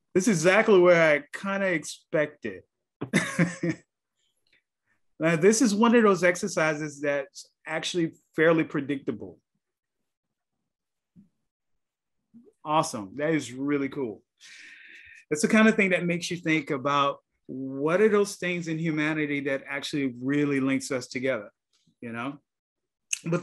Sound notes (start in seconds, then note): 3.0 laughs softly